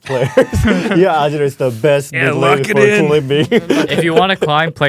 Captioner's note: laughs